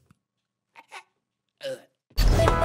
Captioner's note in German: Ächzen